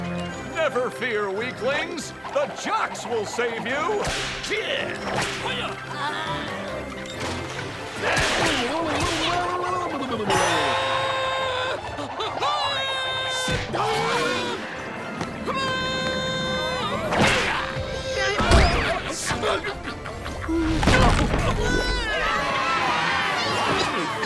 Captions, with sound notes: Never fear, weaklings. The jocks will save you! [grunting] Hi-yah! Ow, ow, ow, ow, ow, ow, ow, ow, ow, ow. [screaming, grunting] [screaming] [cheering]